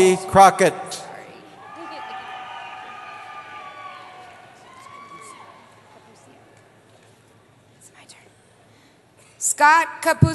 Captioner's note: cheering